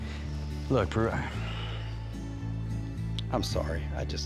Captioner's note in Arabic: تنهدات